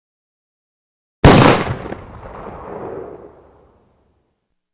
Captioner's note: gunshot